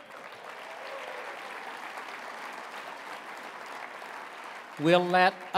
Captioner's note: applause